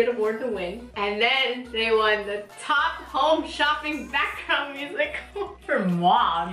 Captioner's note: laughs